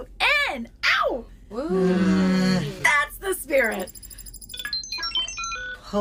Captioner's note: Beeps and bloops from Dusty’s pilot’s helm